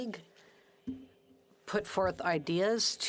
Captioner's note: speaking French